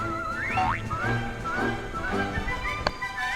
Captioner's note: wind coming from the back~